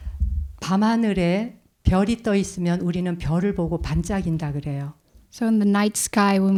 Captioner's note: speaking in Korean